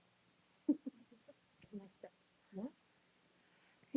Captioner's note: off-camera laughter and inaudible chatter